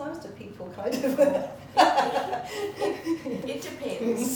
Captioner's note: laughter